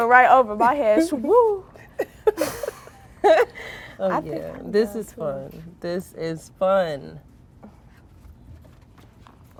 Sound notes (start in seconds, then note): 1.9 girls laughing